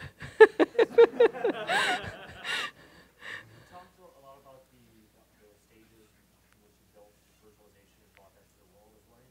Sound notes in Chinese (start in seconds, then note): 2.8 学生在说话